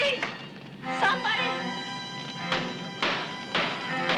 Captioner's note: hammer banging